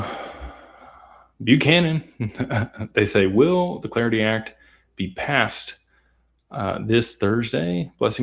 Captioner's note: sighs